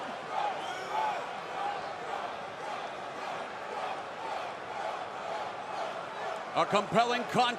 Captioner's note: crowd chatter